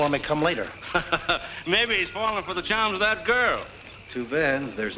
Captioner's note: laughs